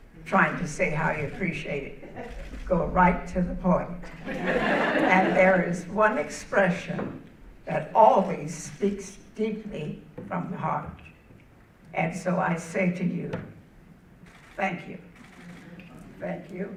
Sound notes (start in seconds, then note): 4.0 audience laughing